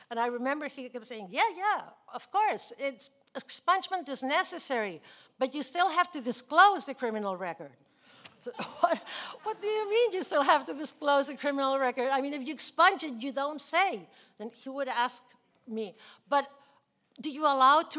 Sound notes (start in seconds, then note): 8.1 laughing